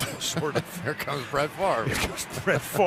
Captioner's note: laughs